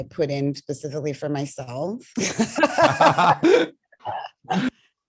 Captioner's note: laughter